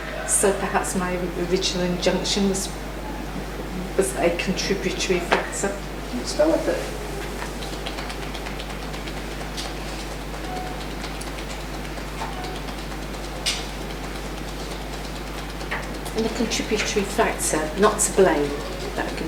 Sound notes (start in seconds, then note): 7.9 tapping